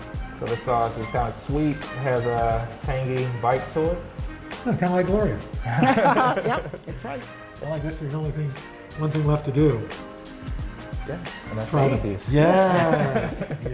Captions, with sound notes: This sauce is kind of sweet. Has a tangy bite to it. - Kind of like Gloria. (laughter) - Yep! That's right. - One thing left to do. - Gonna eat these. - Yes!